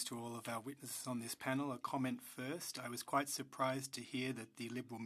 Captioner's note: speaking French